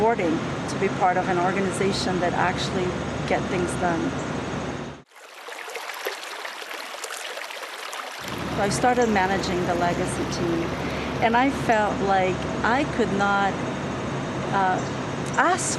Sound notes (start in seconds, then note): 5.0 water flowing